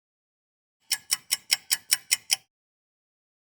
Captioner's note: sound of a ticking clock